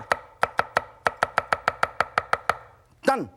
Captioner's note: kitchen knife knocks on the cutting board